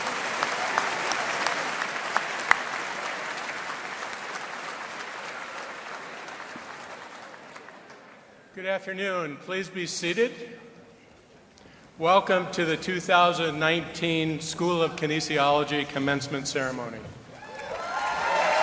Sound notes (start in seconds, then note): 6.1 applause